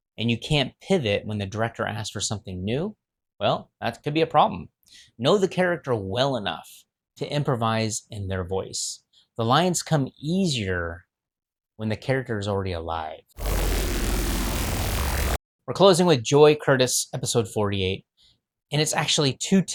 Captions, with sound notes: and you can't pivot when the director asks for something new, well, that could be a problem. Know the character well enough to improvise in their voice. The lines come easier when the character is already alive. (static) We're closing with Joy Curtis, episode 48. And it's actually two